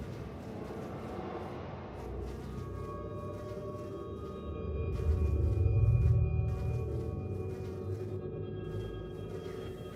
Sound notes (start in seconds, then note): 4.1 sound of flies